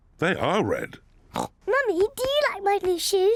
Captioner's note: oinks